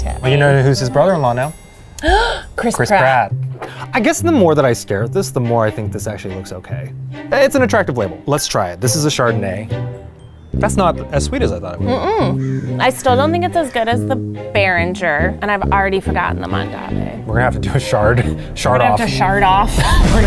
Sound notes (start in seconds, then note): 2.0 gasps; 19.6 both laughing